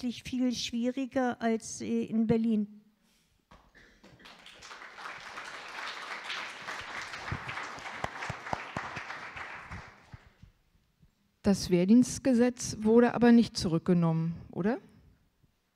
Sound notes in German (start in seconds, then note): 4.0 Applaus